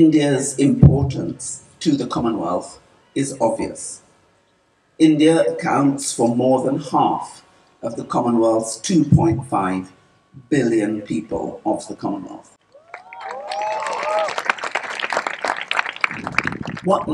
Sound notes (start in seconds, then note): 12.6 cheering/Applause